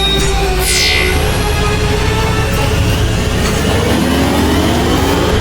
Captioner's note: buttons beeping; machines humming; energy whirring; ship humming loudly